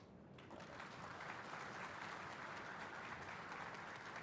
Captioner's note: applause